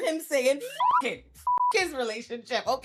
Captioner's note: beep